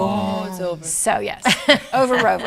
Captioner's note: laughs